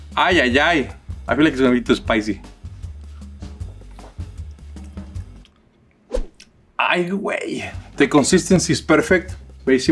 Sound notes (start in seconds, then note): 2.5 gentle upbeat music; 6.8 speaks in foreign language